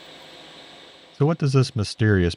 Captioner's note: machine whirring